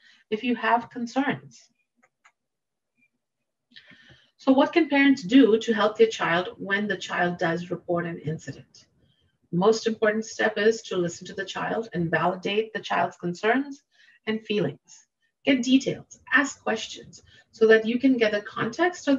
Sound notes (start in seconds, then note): 2.0 mouse clicking